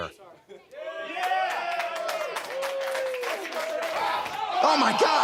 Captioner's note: audience cheers